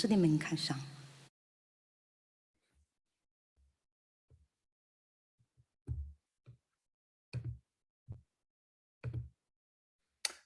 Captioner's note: speaking in Mandarin